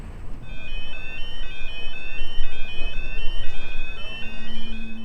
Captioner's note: sirens sound